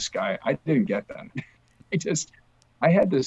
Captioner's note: chuckles